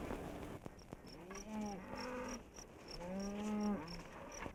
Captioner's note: cows mooing